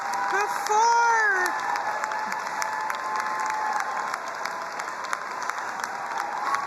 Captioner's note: crowd cheering and applauding